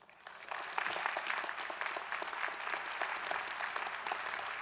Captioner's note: clapping